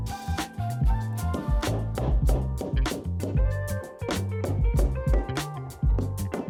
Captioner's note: mellow music; mallet banging